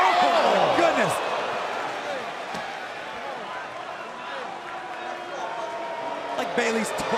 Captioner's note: crowd cheering